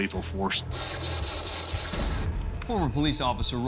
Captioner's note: rapid gunshots